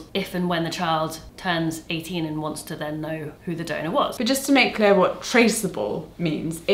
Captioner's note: none